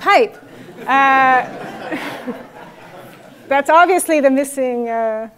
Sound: laugh

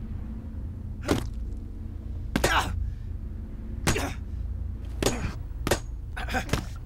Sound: fleshy thud; grunting

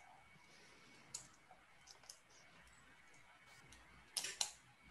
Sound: mouse clicking

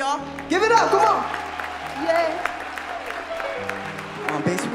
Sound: applause

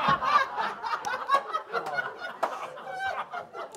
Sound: much laughter

